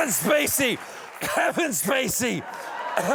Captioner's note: fake cough